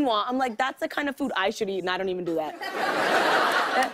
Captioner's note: laughter